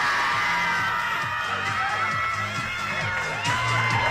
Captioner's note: shouting; cheering; shouting